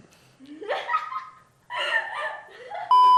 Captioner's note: laughs